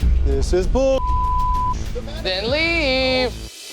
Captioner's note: beep